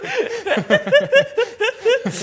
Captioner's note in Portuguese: risos